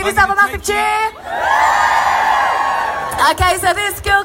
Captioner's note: cheers